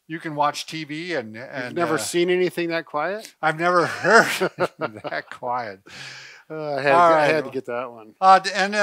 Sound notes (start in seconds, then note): 3.8 laughs